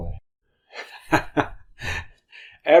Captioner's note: giggles